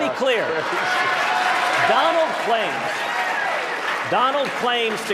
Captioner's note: applause